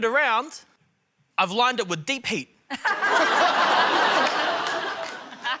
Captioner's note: laughter